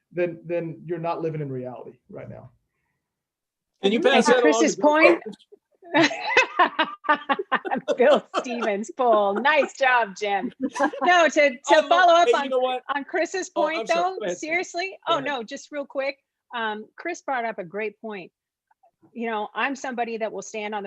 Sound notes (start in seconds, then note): 5.9 laughing